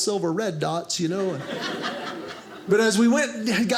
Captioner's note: audience laughing